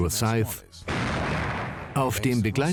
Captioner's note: gun firing